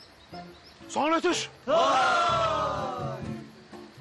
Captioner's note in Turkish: Hep bir ağızdan ''vay'' diye bağırırlar